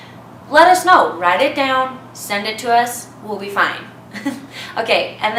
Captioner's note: chuckles